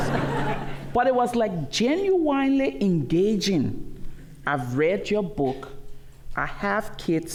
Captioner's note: laughter